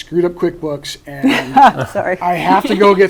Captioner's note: laughs